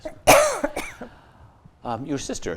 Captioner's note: coughs